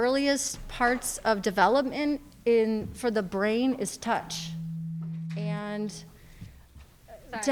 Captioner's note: audio distortion